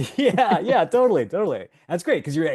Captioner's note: laughs